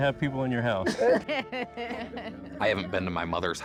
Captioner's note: laughter